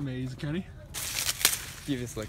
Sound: ripping leaves

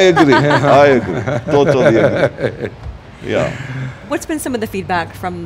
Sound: laughing

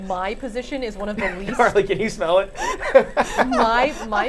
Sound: laughing

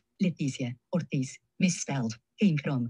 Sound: speaking in foreign language

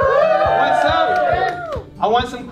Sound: cheers From Crowd

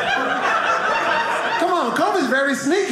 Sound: audience laughing

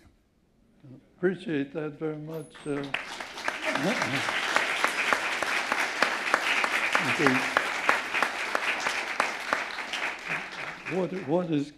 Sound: applause

